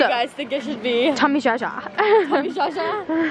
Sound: laughs

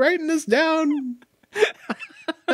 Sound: laughing

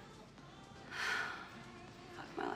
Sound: sighs

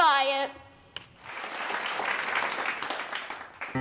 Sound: applause

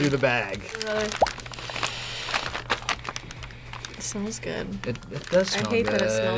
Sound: sniffs

